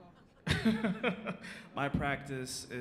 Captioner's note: laughs